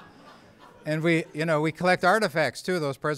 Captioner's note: laughter